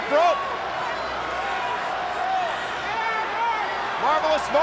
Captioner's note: crowd shouting